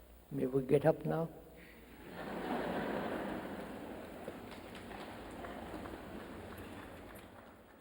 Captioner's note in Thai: เสียงหัวเราะ